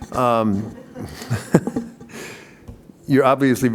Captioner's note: laughter